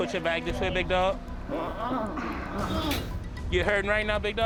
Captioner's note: moans